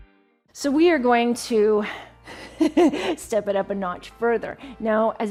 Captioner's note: chuckles